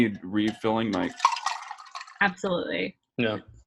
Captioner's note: ice clicking into glass